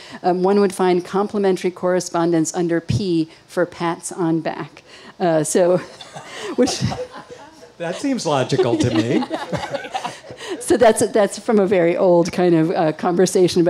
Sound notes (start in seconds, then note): 5.9 all laugh